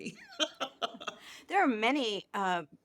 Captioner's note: laughs